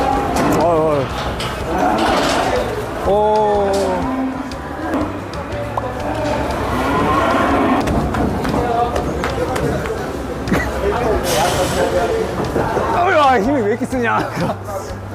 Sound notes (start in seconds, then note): 4.9 thump